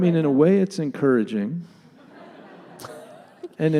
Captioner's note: laughter from audience